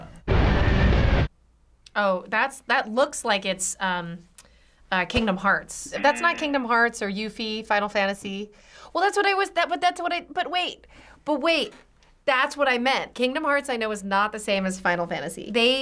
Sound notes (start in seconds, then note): 0.5 dramatic music; 5.2 buzzer